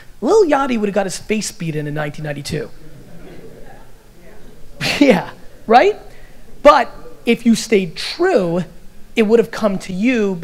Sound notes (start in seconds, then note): 2.1 audience laughter